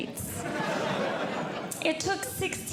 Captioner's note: audience Laughing